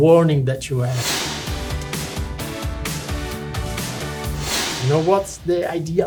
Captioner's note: lively music; screen whooshing